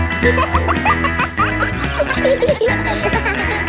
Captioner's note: kids laughing; pop music playing